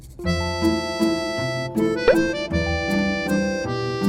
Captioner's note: slurp